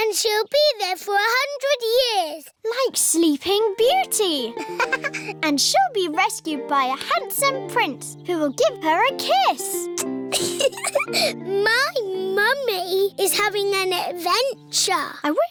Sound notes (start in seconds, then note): 4.5 laughs; 9.9 air kisses; 10.3 giggles